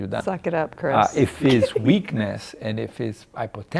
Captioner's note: laughing